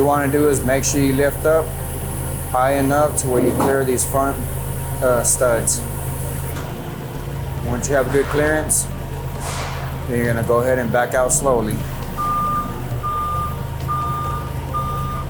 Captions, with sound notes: What you wanna do is make sure you lift up high enough to where you clear these front studs. (machine humming) Once you have good clearance, then you're gonna go ahead and back out slowly. (lift alarm beeps)